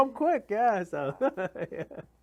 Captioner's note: laughs